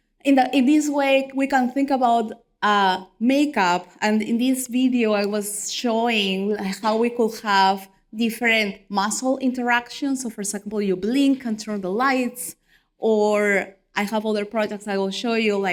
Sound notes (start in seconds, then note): none